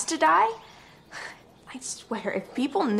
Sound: Caitlin huffs

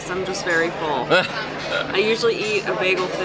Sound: laughing

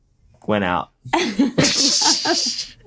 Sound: laughter

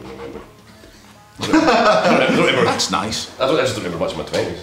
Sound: laughs

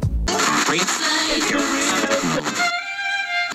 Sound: radio static

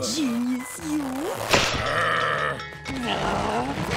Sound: groaning

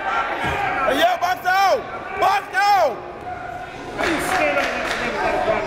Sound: crowds cheering and jeering

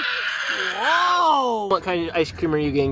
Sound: yells

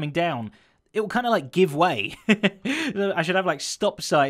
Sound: chuckles

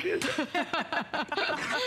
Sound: laughter

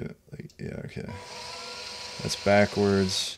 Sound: machine buzzing

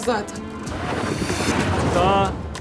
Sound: transition sound

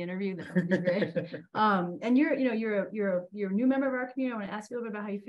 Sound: laughter

